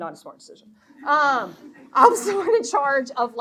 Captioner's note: audience laughing